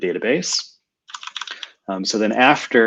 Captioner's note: typing